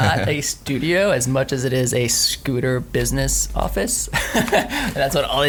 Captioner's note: laughing